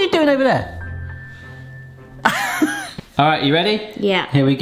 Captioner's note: laughter